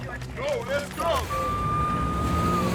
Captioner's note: police sirens wailing